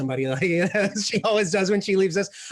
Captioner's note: laughs